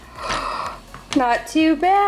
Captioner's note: gasps